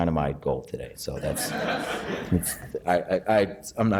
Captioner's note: laughing